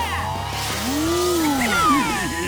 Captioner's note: laughing